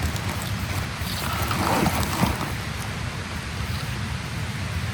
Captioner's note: rustling sound